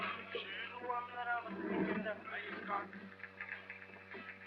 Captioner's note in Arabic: صوت التجديف